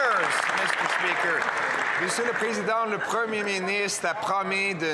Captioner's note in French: voix de l'interprète